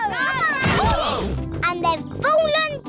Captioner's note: all groan